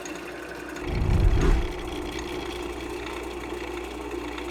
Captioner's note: air whooshes